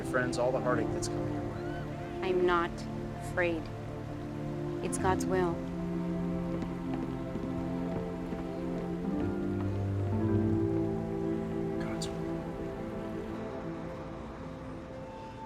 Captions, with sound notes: all the heartache that's coming your way. I'm not afraid. It's God's will. [whispers] God's will.